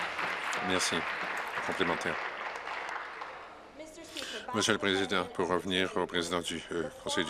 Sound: applause

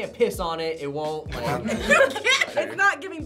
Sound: group laughs

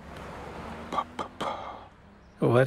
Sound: exhales

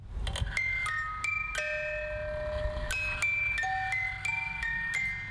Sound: Twinkle Box Chime Sound

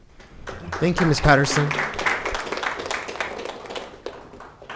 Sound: group clapping

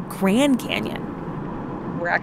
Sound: thrum of driving

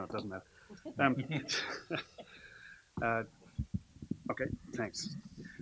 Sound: laughter

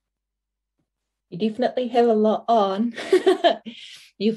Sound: laughs

